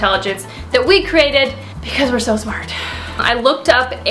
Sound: sighs

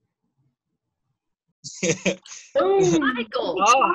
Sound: laughter

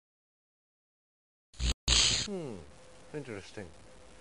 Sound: fizzle

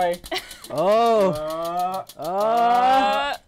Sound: laughs

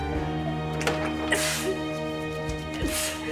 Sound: sneeze

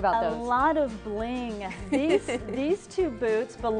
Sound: laughs

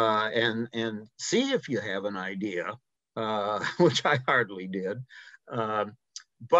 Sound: chuckles

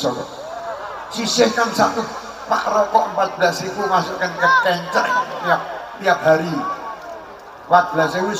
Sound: laughs

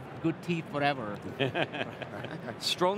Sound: laughing

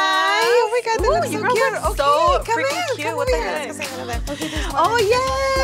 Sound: overlapping friendly greetings

